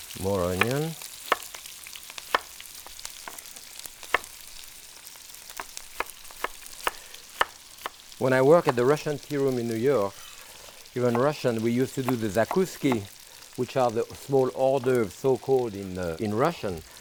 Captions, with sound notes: More onion. (knife tapping) When I work at the Russian tea room in New York, even Russian we used to do the zakuski, which are the small hors d'oeuvres so-called in Russian.